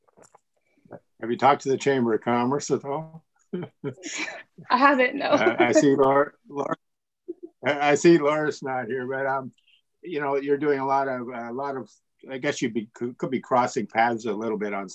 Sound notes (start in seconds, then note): 5.2 laughs